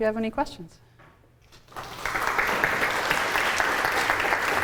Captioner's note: applause